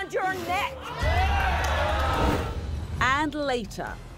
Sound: audience whoops

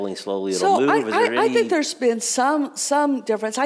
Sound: murmers

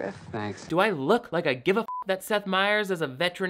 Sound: beep

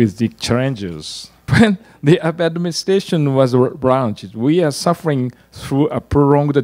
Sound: laugh

